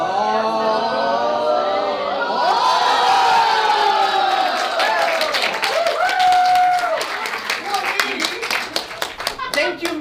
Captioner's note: audience cheering